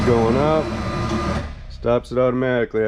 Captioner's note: machine whirs